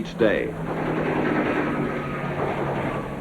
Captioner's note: machine guns fire rapidly